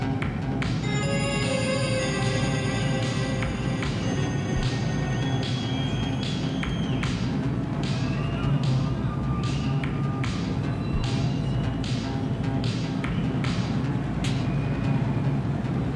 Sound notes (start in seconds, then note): 0.3 ominous instrumental music continues; 5.4 crowd cheering; 5.4 crowd whistling; 10.8 ominous instrumental music continues